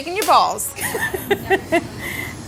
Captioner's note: laughter